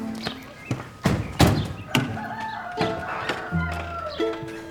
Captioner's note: car doors opening and closing